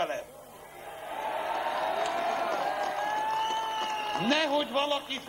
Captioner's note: cheers